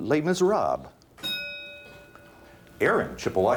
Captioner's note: bell dings